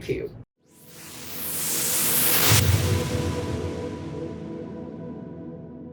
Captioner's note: whooshing